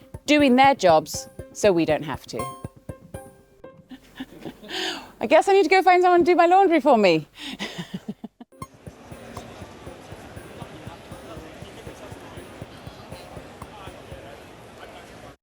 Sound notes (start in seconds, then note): 3.9 laughs; 7.5 laughs; 8.5 funky digital music; 8.8 people chattering